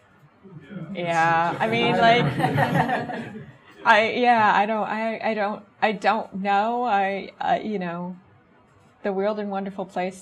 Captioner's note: audience chuckles